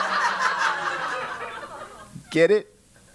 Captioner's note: laugh